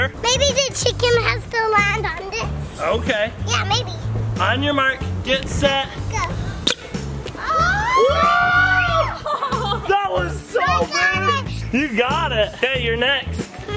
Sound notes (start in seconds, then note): 6.9 toy squeaks; 7.4 cheering